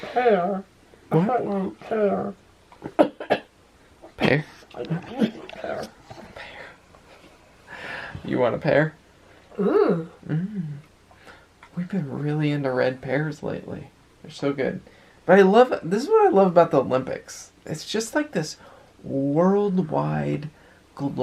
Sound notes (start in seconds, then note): 2.8 coughing